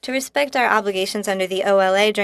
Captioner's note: speaking French